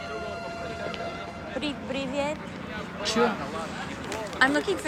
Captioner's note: Sally speaking foreign language